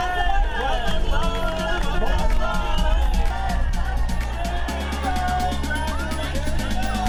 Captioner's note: crowd chattering; upbeat music